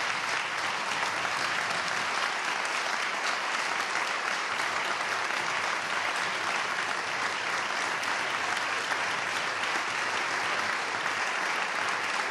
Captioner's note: applause